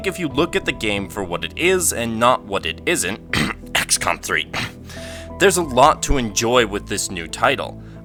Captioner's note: cough